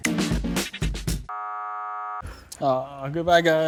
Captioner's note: buzzer sounds